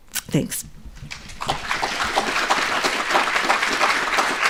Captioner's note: audience applauds